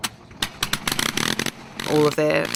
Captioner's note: engine starts